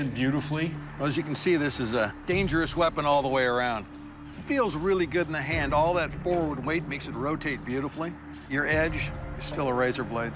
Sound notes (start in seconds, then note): none